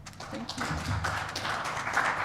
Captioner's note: crowd applause